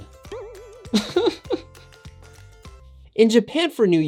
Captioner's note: laughing